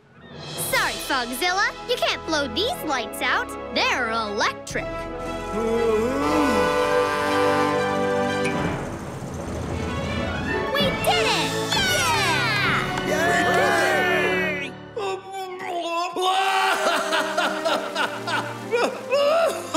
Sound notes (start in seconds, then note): 11.6 cheering; 16.3 crying